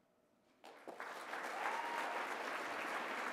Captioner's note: applause